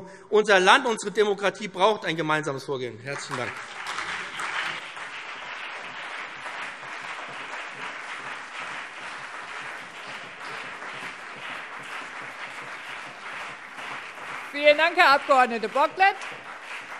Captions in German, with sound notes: Unser Land und unsere Demokratie brauchen ein gemeinsames Vorgehen. - Herzlichen Dank. [Anhaltender Beifall BÜNDNIS 90/DIE GRÜNEN und CDU] Vielen Dank, Herr Abg. Bocklet.